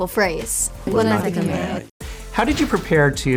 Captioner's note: speaking na'vi